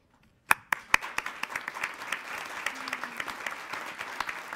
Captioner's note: applauding